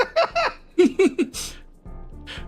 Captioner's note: laugh; laughs